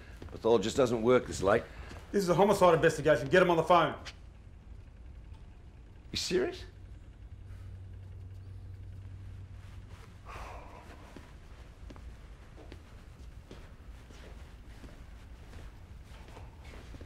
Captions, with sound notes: pathologist doesn't work this late. - This is a homicide investigation, get him on the phone. - You serious? (Owen sighs) (Owen walking)